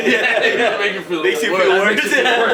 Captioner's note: laughing